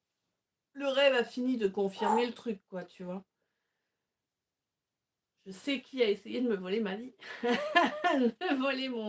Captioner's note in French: rires